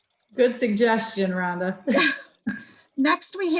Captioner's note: both chuckle